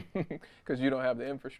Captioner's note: laughs